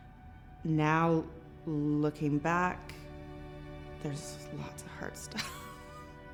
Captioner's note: chuckles